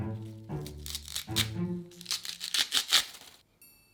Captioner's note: leaves stripping away